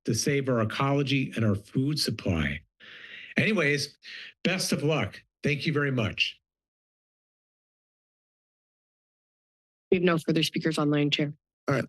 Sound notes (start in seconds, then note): 6.4 silence